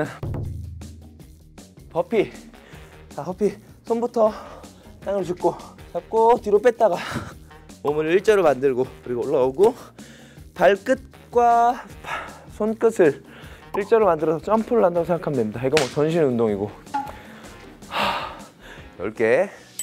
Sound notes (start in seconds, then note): 17.9 sigh